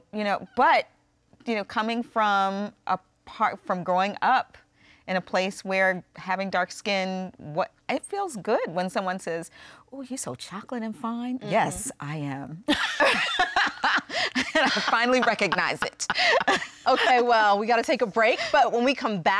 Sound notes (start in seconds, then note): 12.7 laughter